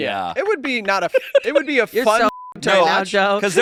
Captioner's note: beep